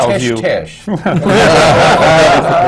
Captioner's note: laughter